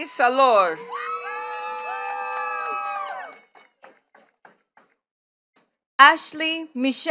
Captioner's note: attendees cheering and clapping